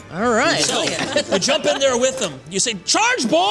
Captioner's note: laughter